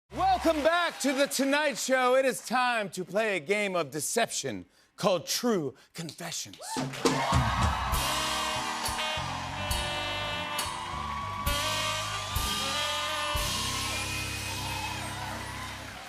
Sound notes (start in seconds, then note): 6.9 cheers and applause